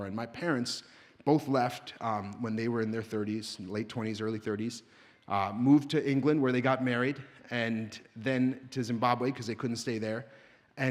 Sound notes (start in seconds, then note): none